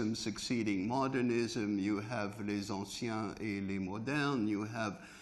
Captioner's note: speaking french